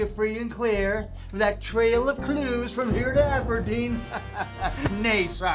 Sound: laughs

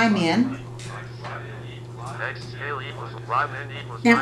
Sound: calculator Sounds

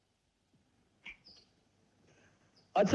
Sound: door Opens

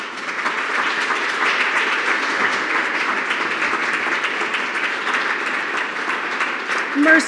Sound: applause

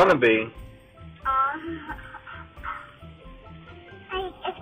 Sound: laughs

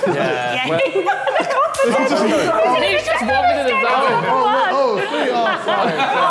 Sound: all laughing

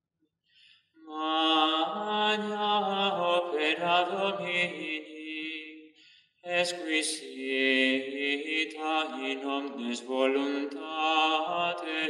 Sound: chant

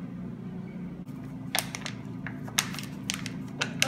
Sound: crinkles

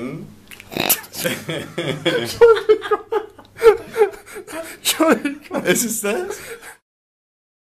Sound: laughter

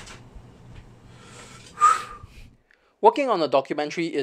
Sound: exhale

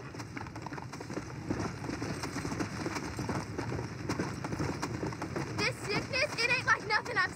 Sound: galloping horse

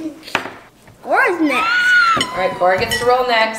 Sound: squealing

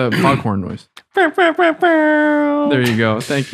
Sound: popcorn noise

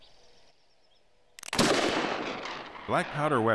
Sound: gunshot

